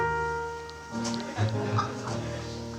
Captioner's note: quiet laughter from unseen audience